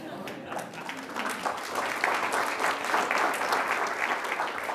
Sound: attendees applauding

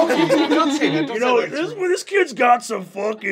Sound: laughing

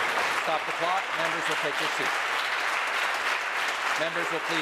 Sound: applause

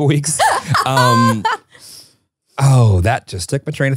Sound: laughing

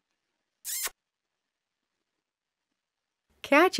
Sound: smooch

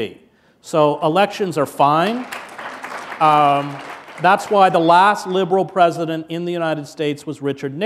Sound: applause

